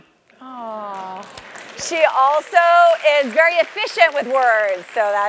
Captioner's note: applause